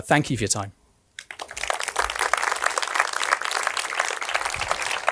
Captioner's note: audience applauding